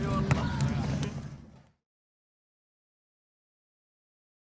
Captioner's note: silence